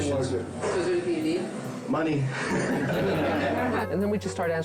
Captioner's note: laughing